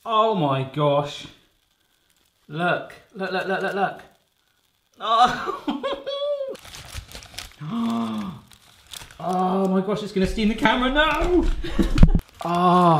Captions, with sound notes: Oh my gosh! Look,let's look.(laughs loudly) Oh my gosh!It's gonna steam the camera now.(laughs)